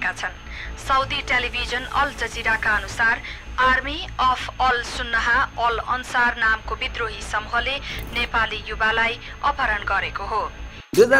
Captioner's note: radio playing